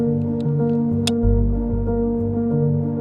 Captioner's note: click